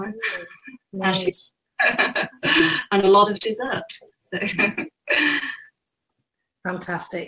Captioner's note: laughing